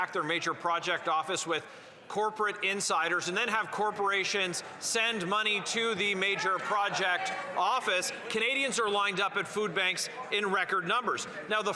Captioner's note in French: voix de l'interprète